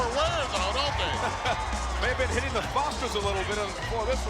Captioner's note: laughs